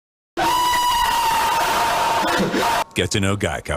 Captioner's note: loud Screeches